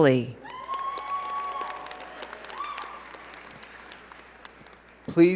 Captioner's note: crowd clapping and cheering